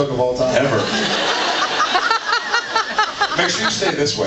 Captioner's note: laughs